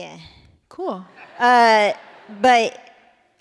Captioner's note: laughter